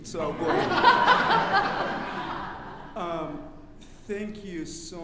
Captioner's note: audience laughing